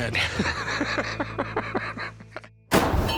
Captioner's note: laughter